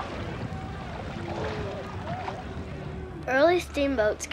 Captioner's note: water splashing